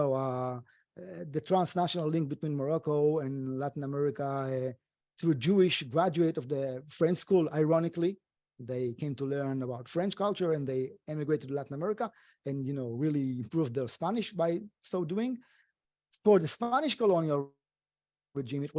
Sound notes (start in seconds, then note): none